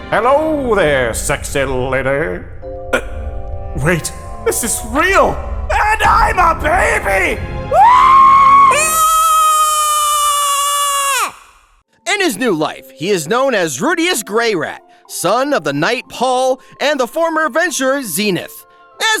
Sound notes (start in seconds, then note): 7.7 Rudy screaming; 7.7 baby screaming